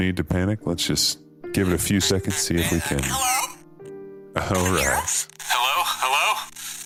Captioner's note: static